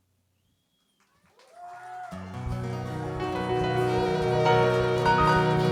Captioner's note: applause